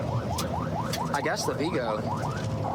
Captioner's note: warning sirens